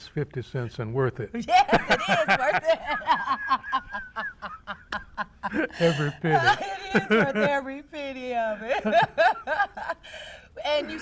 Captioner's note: laughter